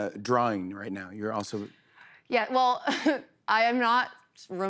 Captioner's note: laughs